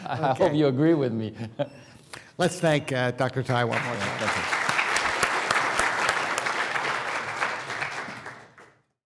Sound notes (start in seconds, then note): 4.9 applause